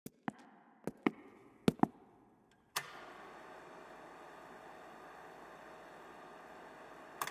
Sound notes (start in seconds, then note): 0.4 projector clicking; 0.8 footsteps approaching